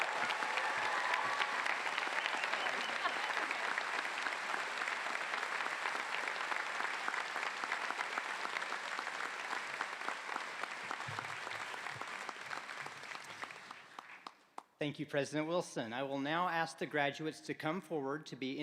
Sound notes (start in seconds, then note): 3.1 applause